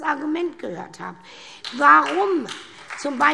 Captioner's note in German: Beifall SPD und Freie Demokraten